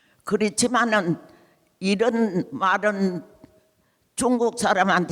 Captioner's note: speaking in foreign language